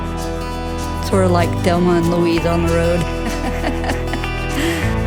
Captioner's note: laughs